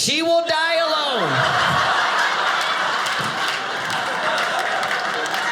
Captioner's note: audience laughing